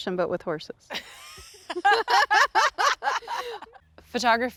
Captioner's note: women laughing